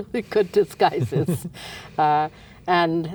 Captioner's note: laughs